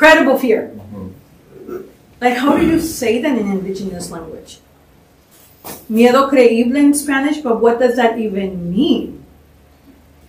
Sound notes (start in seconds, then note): 5.8 spanish